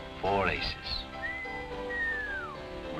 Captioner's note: whistling